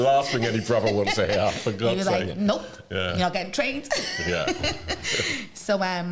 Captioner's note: laughter